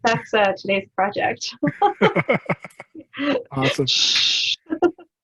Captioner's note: laughing